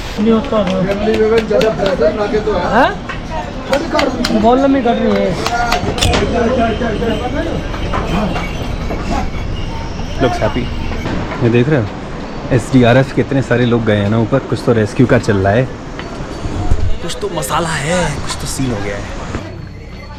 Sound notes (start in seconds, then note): 3.1 crowd buzz and conversations